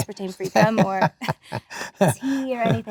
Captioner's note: Adam laughs